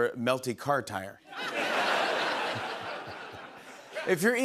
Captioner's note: laughter